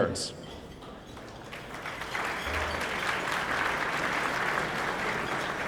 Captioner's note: applause